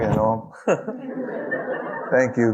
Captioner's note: audience laughing